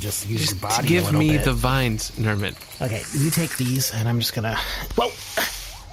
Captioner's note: exhausted